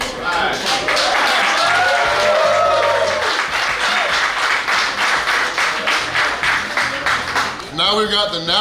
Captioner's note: clapping & Cheering